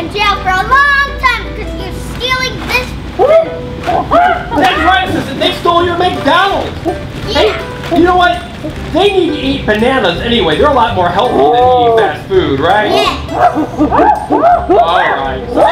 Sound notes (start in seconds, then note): 3.8 gorilla sounds; 13.1 gorilla sounds